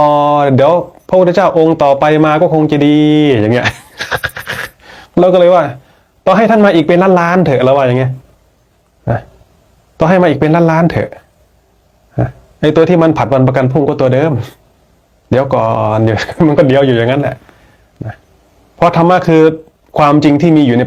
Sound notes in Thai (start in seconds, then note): 3.6 เสียงหัวเราะ